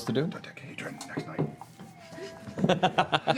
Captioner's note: whispering